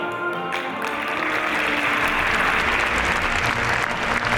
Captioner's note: audience applauding